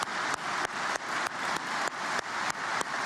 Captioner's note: applause